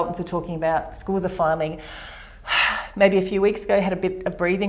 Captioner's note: breathes out